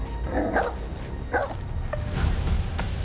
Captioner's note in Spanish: Ladridos